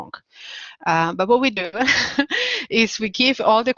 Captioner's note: chuckling